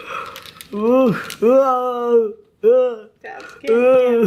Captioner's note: laughing